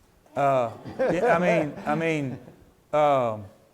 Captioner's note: laughs